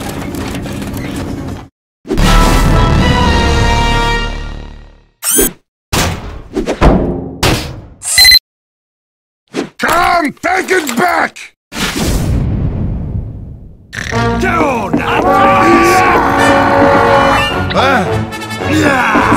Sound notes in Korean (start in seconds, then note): 15.2 전투 함성